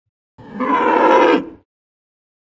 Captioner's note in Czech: napodobuje mučící krávu, znovu